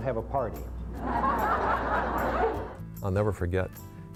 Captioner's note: audience laughs